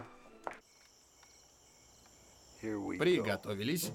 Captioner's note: crickets chirping